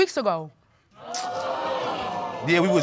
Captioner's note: audience exclaiming